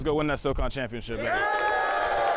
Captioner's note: cheering